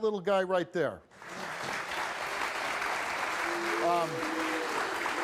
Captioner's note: audience applauds